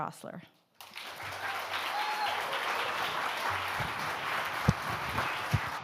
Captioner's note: audience applauding